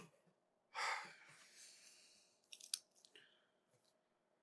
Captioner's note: none